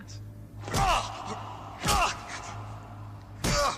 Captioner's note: man yelling